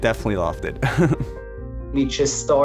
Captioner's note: chuckling